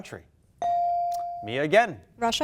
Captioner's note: bell dinging